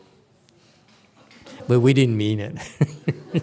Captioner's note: laughs